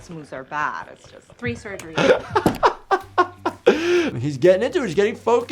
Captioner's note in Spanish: riendo